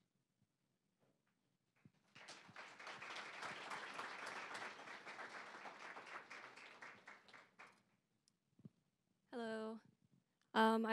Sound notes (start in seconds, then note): 1.9 applause